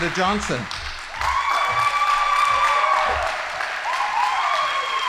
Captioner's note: audience applauding